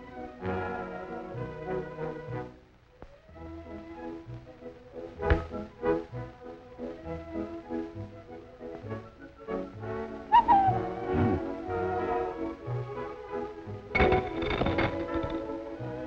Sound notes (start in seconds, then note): 10.3 whistle blows; 12.6 sweet orchestra music